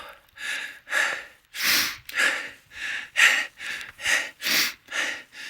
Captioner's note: breathing heavily